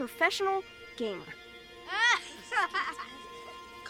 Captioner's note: kids laughing